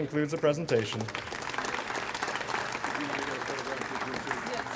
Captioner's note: audience applauds